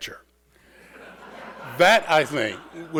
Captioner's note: audience laughing